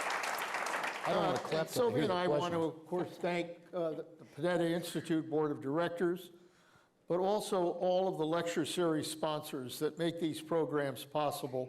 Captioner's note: applause